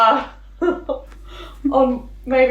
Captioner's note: laughing